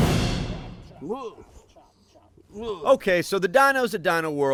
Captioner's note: grunts